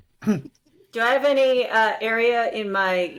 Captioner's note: laugh